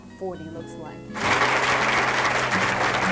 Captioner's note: applause